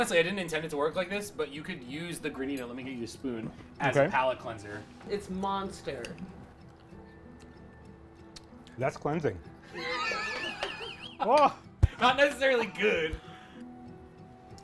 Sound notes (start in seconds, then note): 9.7 laughs